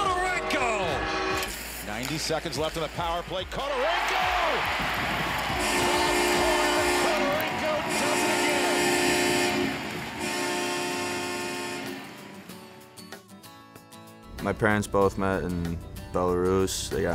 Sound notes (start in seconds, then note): 4.7 cheers; 5.5 goal buzzer; 8.9 multiple buzzers; 14.0 upbeat music